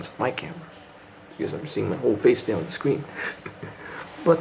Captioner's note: chuckles